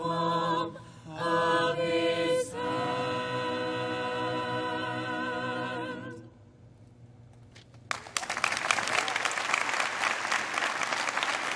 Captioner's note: applause